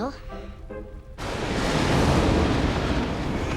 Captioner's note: thunder rumbling